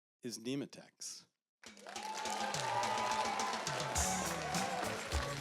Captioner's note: applause